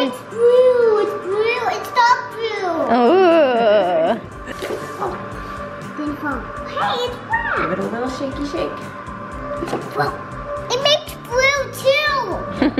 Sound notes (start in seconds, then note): 3.0 mom laughs; 4.4 egg splashes; 12.5 laughs